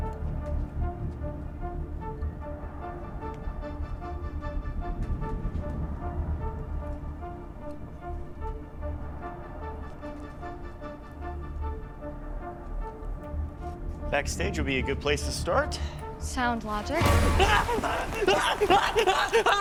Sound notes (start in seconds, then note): 17.0 screaming